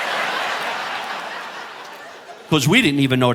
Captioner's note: audience laughing